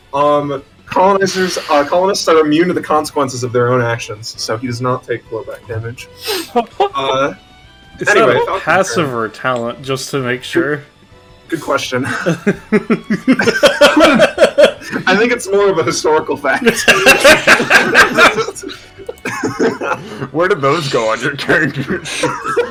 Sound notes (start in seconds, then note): 12.0 snickers; 16.6 laughs